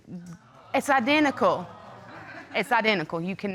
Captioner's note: audience exclaims